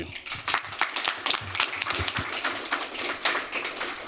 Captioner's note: applause